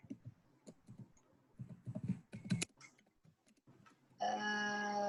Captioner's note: none